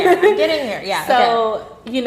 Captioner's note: laughing